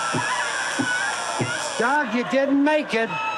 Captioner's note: buzzer